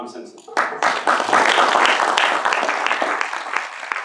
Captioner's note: audience applauds